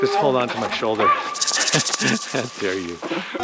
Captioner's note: rattle snake grating